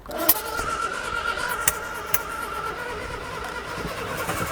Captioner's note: engine rumbling